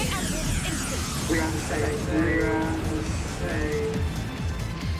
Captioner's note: robot voices